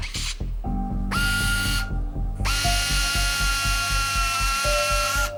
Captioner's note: machine buzzing